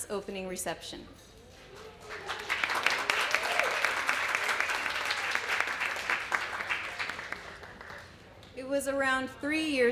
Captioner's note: applause